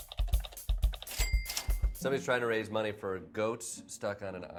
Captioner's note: clicking and dinging